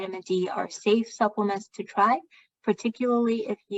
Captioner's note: speaking chinese